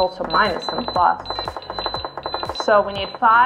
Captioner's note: beeping